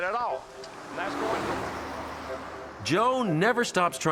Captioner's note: vehicle whooshing